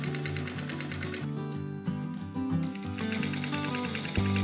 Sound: straight stitching

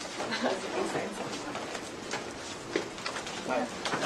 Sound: background chatter

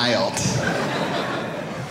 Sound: audience laughing

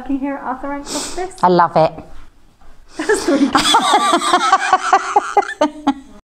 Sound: laughs

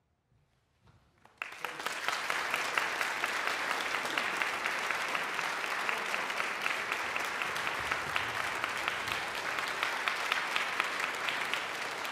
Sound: audience applause

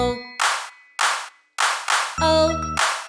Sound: claps, claps, claps, claps

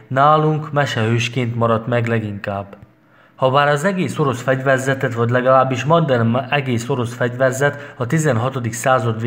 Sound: in Arabic

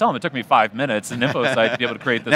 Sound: laughs

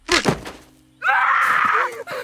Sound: bones crack; MJ screams

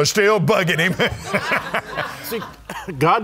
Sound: laughing

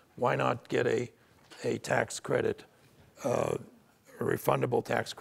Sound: none

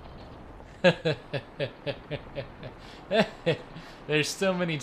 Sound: chuckles

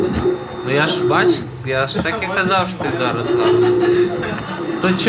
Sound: laughs

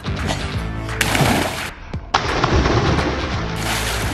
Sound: water splashing

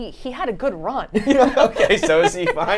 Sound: both laughing

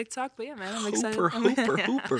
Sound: chuckles

